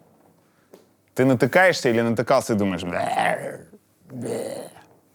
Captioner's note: growls